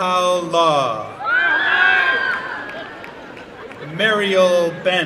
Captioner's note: applause and cheering